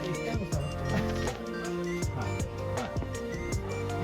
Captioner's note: laughs